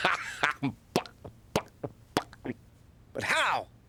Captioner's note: laughing; clucking